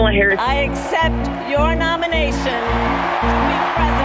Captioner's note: audience cheering